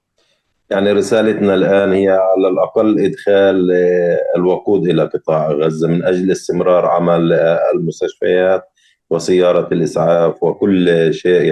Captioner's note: speaking arabic